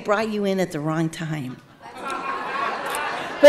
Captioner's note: audience laughing